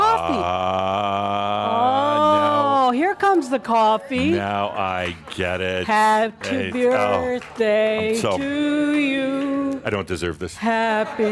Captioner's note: laughter